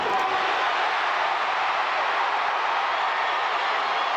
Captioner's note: crowd cheering